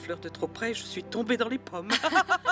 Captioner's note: laughing